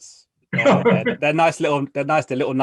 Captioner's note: laughing